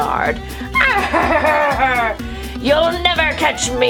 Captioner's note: laughs